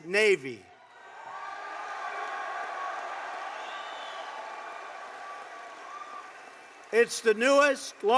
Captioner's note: applause